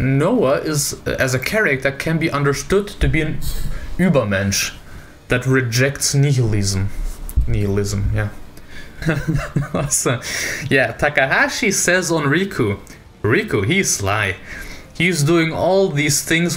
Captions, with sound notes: Noah is as a character can be understood to be an "Übermensch" that rejects nihilism. Nihilism, yeah. (laughs) Yeah, Takahashi says on Riku, "Riku, he's sly. He's doing all these things